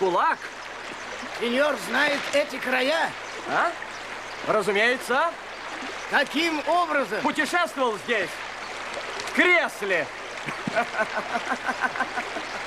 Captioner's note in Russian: смех